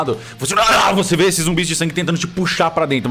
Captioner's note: roaring